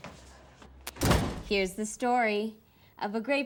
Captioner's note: door bangs